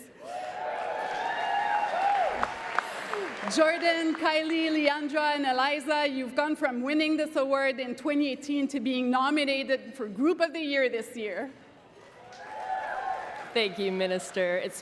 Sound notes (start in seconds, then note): 5.8 cheering and Applause